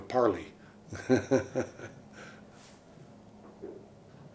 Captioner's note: laughs